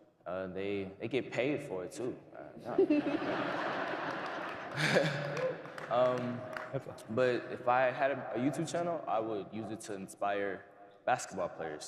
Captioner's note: laughter